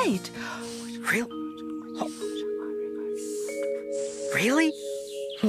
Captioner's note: whispering